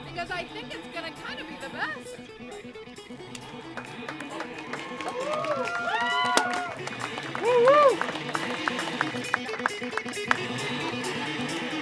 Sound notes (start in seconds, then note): 3.3 applause; 3.4 sick guitar riff